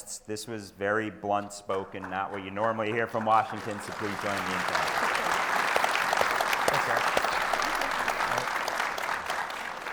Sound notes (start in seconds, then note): 5.6 attendees applauding; 8.1 applause drowns out panelists